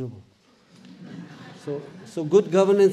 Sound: audience laughs

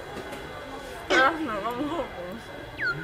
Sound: beep

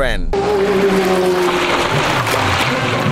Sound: engine revving

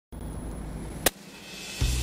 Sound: net cannon firing

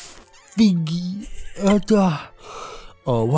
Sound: laughing; heavy Breathing

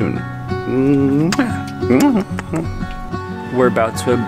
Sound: blowing kisses

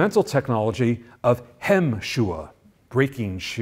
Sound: foreign language

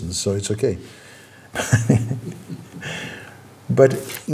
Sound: laughs

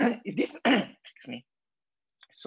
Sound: clears throat

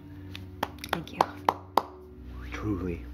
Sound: light clapping

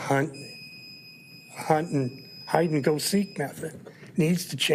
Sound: timer beeping

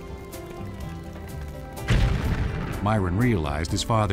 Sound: explosion

